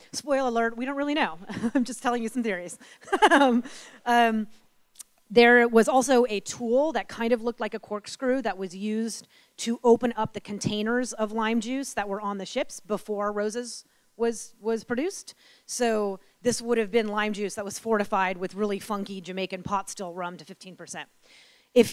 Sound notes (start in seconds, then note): 2.8 giggles; 3.0 laughs